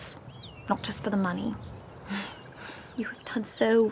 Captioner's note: chuckles